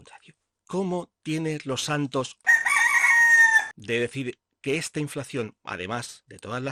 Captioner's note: rooster sound